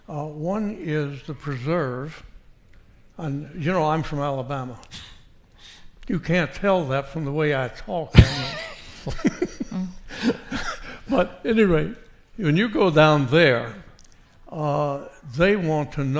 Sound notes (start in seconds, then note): 8.1 laughs